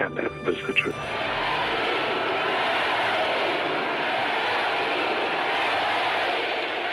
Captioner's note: crowd applauding; crowd chanting